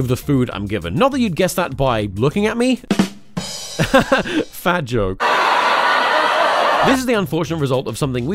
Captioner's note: audience laughter